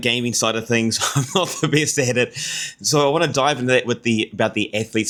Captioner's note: laughs